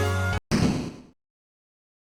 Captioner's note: door slams